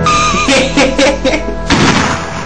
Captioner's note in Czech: Směje se; Výstřel